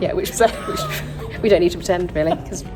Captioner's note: laughs